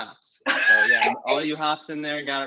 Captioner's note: laughs